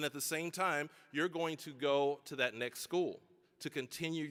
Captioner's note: none